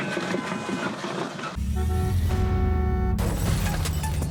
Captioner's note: car horn honks